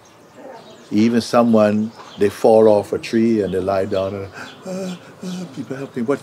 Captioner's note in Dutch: kreunt